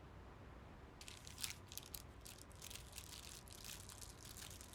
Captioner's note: wrapper rustling